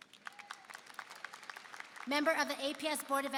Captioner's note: applause